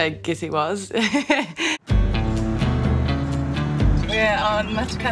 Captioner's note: laughing